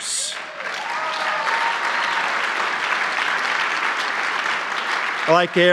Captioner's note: applause